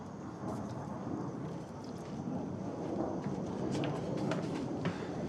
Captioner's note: airplane droning